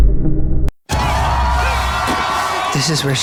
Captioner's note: people cheering, air horns